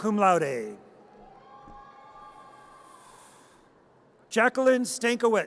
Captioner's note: audience cheers